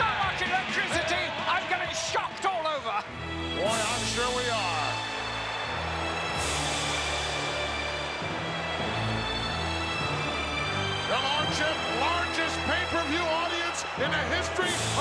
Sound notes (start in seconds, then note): 5.2 crowd chattering; 5.2 dramatic music